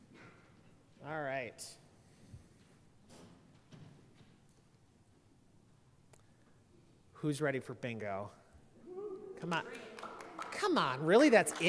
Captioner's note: applause